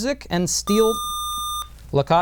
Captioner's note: buzzer